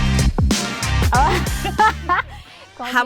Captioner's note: laughing